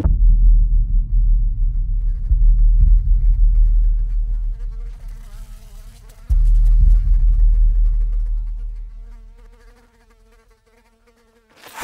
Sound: flies Buzzing

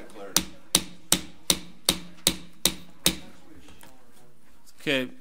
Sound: gavel bangs

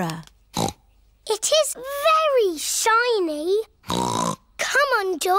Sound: snorts

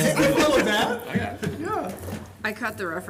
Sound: laughter

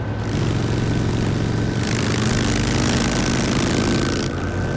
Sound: engine rumbling

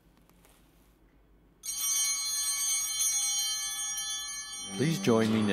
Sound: bell ringing

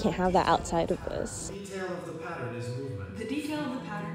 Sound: male Voice

